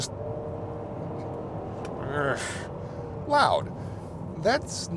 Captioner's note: engine roaring